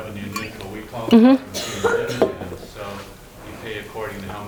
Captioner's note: student coughs